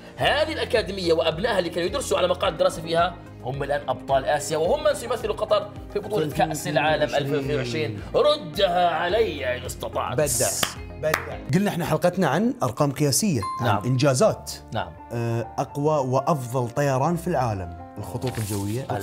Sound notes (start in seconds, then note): 11.1 applauding